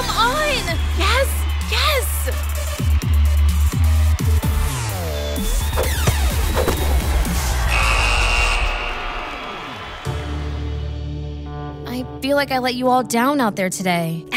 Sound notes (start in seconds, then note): 7.6 buzzer sounds